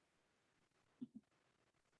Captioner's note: silence